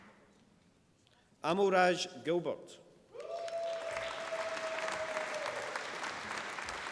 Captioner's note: applause